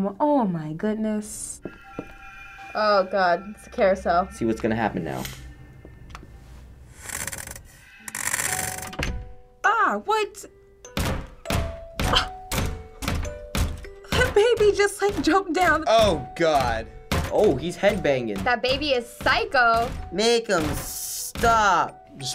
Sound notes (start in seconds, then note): 8.0 winding up crank; 8.9 lullaby music playing; 10.7 baby thumping head; 12.1 gasping